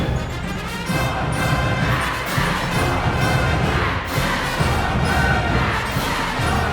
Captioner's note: crowd chanting